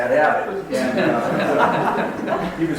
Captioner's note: audience laughs